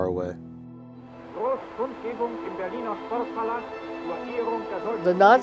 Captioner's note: announcer speaking in foreign language